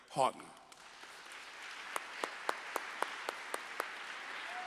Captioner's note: applause